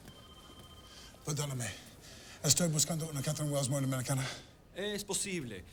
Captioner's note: all speaking Spanish